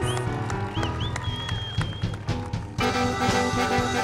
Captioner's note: speaking in Spanish; audience cheers; upbeat music